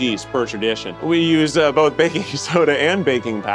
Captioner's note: majestic music continues; laughing